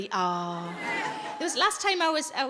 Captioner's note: audience laughs